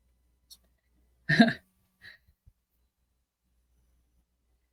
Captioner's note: chuckles